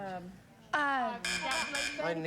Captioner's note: buzz buzz buzz